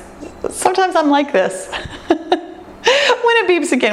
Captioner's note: laughs